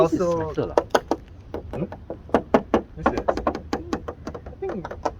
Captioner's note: knock knock knock